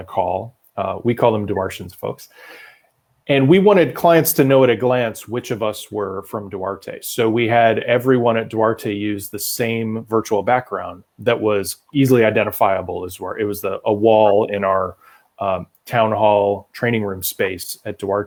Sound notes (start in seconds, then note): none